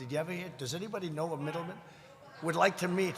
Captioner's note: laughter